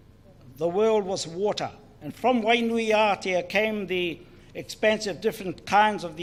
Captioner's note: speaks in foreign language